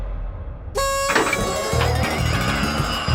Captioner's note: clang!; whistle toots; celebratory music plays